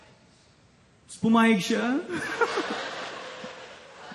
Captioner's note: giggles